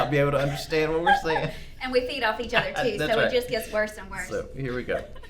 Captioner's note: laughter